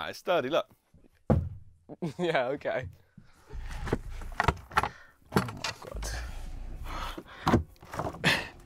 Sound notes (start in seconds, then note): 1.3 floor bangs; 5.3 door clanging